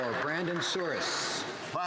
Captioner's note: some Applause